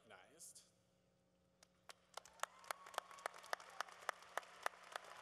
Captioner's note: applause